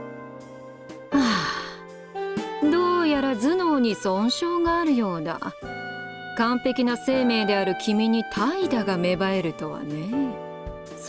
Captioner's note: sigh